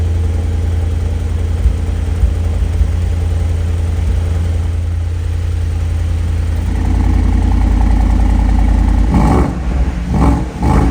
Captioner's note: car Start and revving